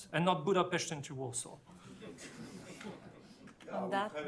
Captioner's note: laughter